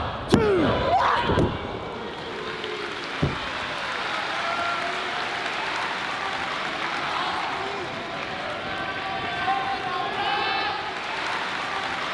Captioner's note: applause